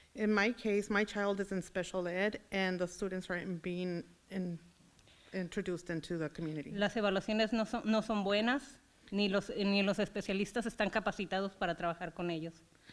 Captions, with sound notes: In my case, my child is in Special Ed and the students right in been introduced into the community. (foreign language)